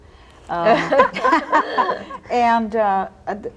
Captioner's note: all laughing